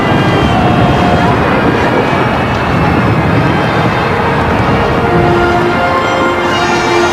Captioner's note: fireworks and celebration starting